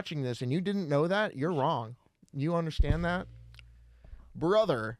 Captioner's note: bumps his microphone